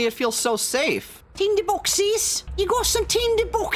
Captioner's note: british paperboy voice